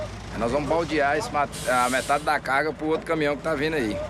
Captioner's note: Portuguese spoken audio